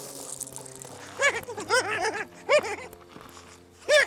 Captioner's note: deer man noises